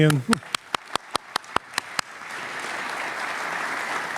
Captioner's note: audience applauding